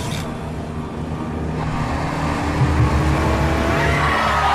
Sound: Héctor's car is speeding before the crash

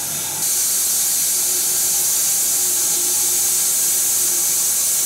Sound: saw whirring continues

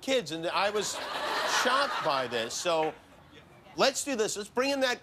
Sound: laughter

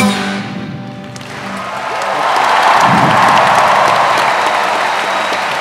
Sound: applause

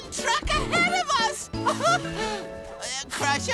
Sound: laughing

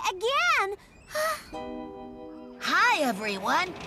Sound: sighs

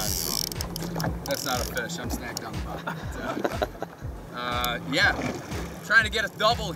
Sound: laughing

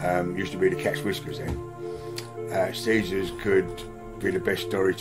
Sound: none

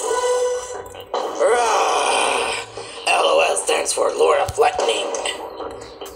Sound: growling

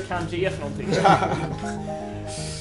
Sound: laughter

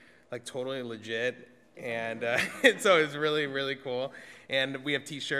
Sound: audience laughs

